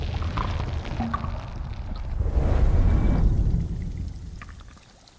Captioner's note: drink pouring; bubbles